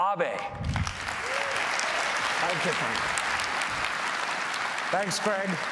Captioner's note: applause